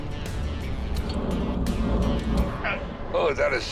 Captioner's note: rubber groaning